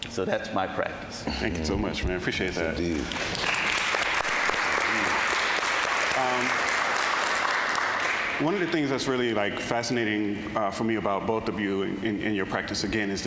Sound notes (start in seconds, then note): 2.8 audience applauding